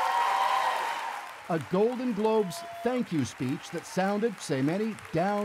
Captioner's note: cheers and Applause